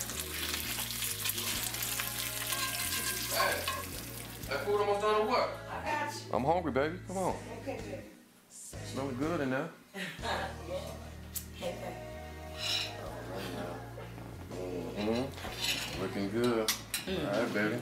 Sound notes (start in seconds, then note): 10.0 Crystal chuckles